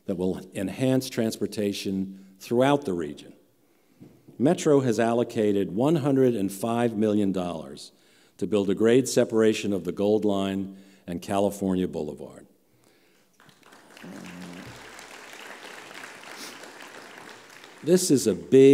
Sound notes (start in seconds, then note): 15.0 applause